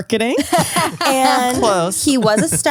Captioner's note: laughs